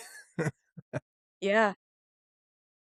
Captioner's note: laughs